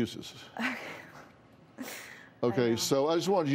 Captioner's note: laughs